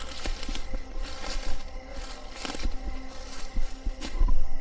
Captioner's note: leaves crunching